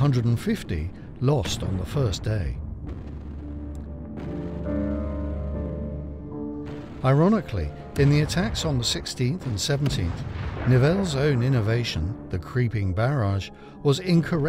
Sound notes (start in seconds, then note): 3.7 explosions boom; 3.7 ominous music